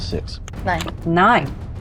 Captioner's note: die rattling